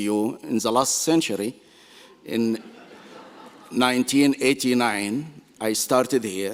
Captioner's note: laughter